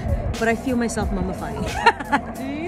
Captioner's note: laughs